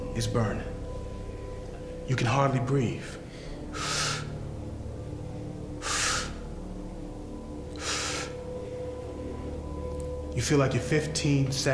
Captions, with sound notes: You can hardly breathe. (Malcolm inhaling) You feel like you're 15 seconds from dying.